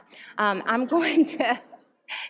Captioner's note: laughter